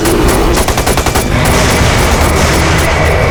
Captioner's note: none